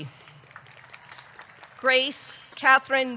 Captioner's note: audience clapping; audience cheering